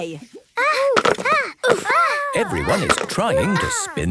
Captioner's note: all grunting